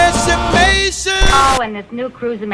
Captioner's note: glitching